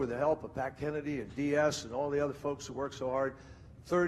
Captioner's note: speaking quickly